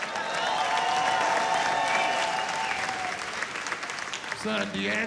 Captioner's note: applause, cheering